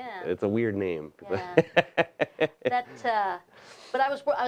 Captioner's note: laughing